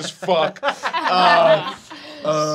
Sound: laughing

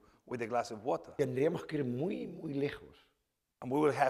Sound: speaking spanish

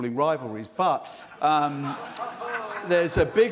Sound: laughter

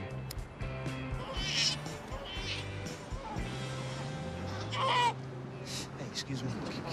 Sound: cries

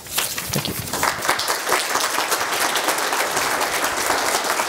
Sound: applause

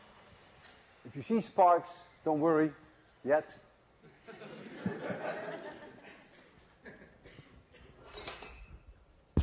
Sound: laughter

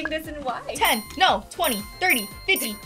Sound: bell chimes; bell chiming

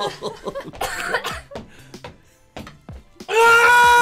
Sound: chuckling maniacally; stomping feet; coughing

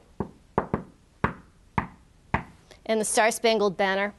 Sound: tapping

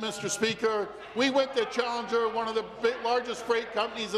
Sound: some Applause

